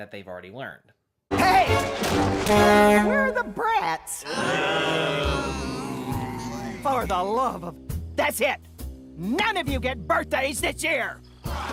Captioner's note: inaudible sighs; Beagle Boys moan